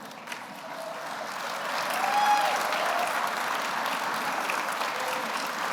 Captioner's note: audience applauds